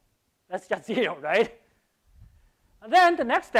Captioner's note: laughs